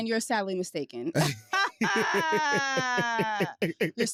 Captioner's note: laughter